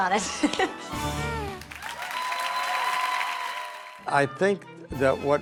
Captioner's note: clapping